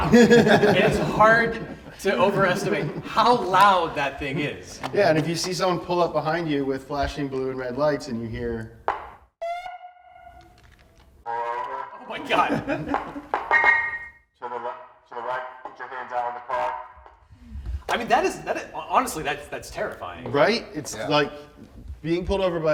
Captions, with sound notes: It is hard to overestimate how loud that thing is. - Yeah and if you see someone pull up behind you with flashing blue and red lights and you hear. (distorted voice) - Oh my god. - The right put your hands out on the car. - I mean, honestly that's terrifying. - Right, it's like being pulled over